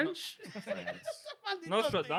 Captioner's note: laughing